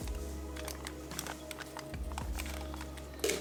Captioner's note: sound of aluminum foil crinkling